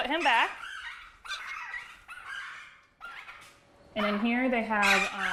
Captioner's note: birds chirping